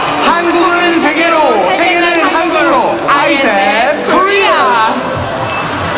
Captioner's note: cheer in Korean